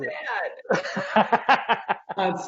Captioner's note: laughing